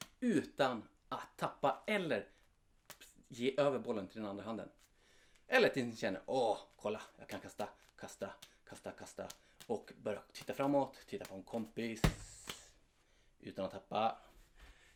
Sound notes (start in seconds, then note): 12.0 thud